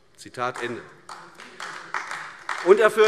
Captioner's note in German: Beifall AfD